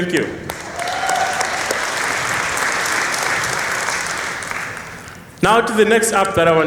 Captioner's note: applause